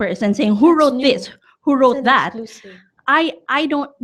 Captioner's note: none